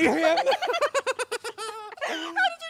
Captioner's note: delighted laughter